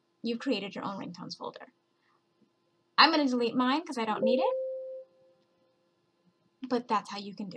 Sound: computer dings

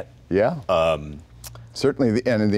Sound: humming

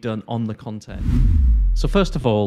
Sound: whooshing

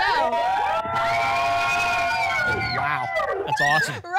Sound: cheering and screaming

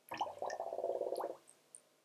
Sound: bubbles sound

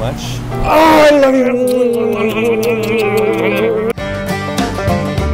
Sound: kissy noises

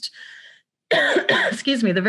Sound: coughs

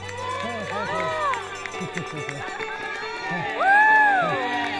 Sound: crowd cheers and applauds

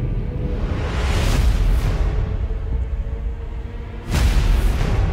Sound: atmosphere whooshing; music intensifying

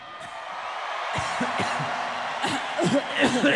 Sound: audience cheers; both coughing; coughs

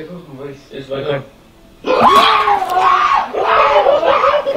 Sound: scream; spit

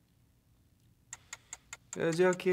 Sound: ticking

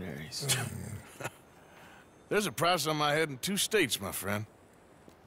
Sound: laughs

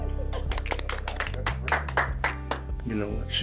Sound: clapping

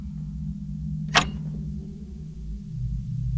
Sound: lock click

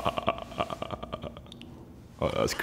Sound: giggling

